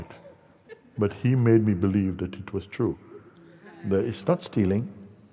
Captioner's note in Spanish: risas